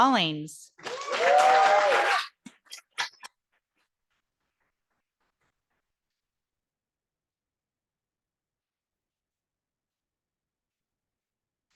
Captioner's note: audience applauding